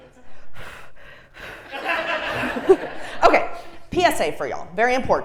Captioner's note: laugh